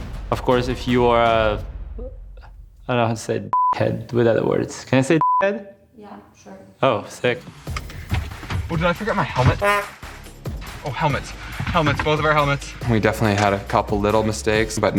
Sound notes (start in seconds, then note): 3.5 beeps; 5.2 beeps; 9.5 horn beeps